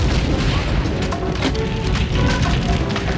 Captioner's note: boom